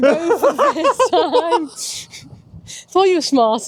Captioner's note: laughing